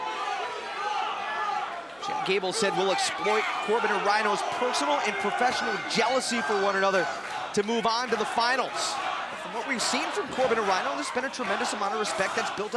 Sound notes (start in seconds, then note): 6.5 crowd chatter